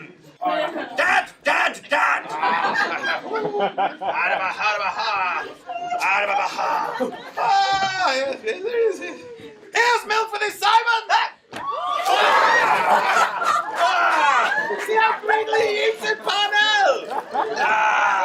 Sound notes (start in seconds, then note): 11.6 cheering